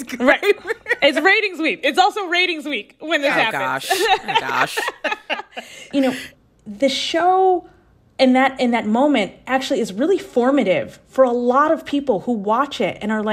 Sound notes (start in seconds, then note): 3.4 laughter